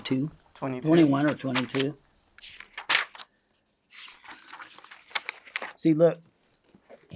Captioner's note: paper crinkling